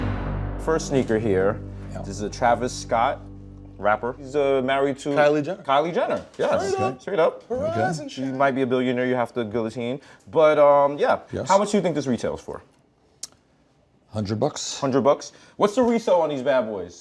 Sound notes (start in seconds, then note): 7.5 falsetto